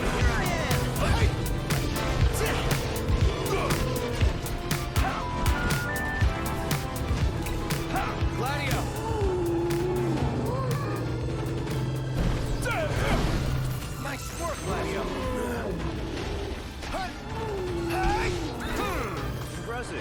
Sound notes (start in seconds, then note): 2.2 man grunting; 7.9 monster groaning; 12.7 man grunting; 16.9 man yelling